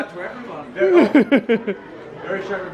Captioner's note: laughs